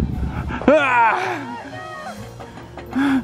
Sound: yelling

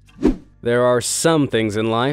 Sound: transitional wipe-screen rushing sound

